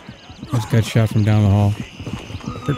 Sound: gunfire

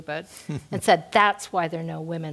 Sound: laugh

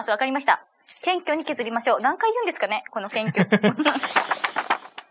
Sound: laughs

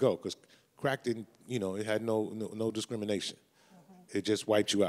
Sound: none

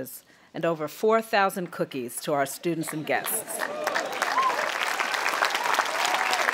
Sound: audience applauding and cheering

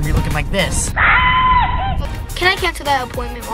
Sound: screams

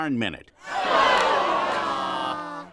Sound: jeering

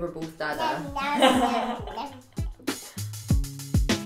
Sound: laughter

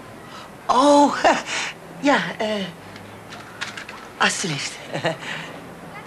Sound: speaks Dutch

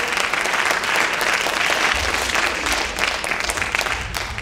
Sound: loud cheering

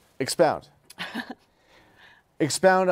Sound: laughs

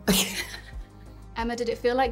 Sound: Emma laughing

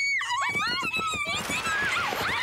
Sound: screaming

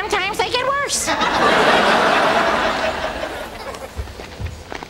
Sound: audience laughs

